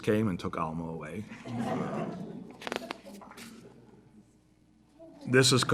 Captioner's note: laughter